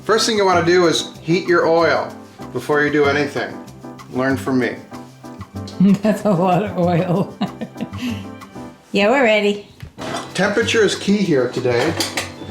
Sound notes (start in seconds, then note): 5.8 woman laughs